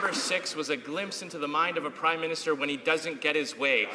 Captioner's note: some Applause